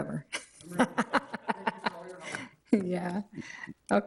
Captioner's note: laughs